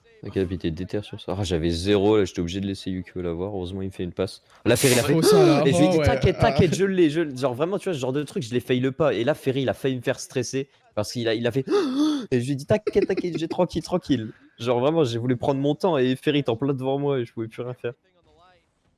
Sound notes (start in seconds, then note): 4.8 sighs; 11.6 big sighs